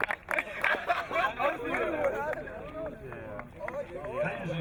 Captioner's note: tigers laughing